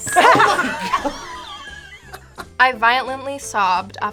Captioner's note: both laugh